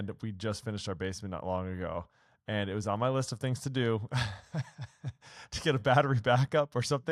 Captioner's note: laughs